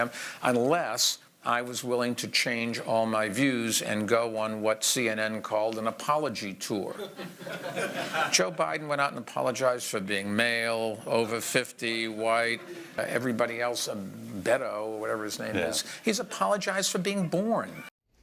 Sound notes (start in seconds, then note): 6.9 laughter